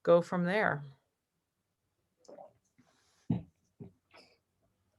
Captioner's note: silence